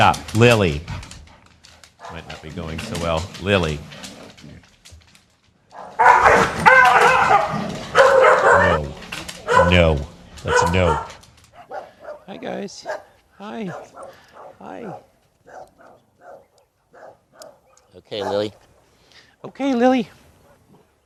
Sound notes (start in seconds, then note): 2.0 Lily growling; 5.7 Lily barking and yelping